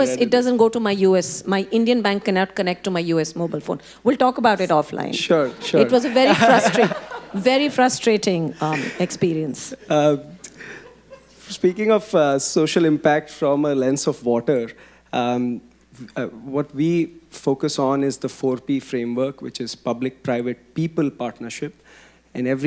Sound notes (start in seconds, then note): 9.6 audience laughing